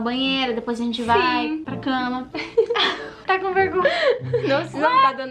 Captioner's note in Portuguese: risos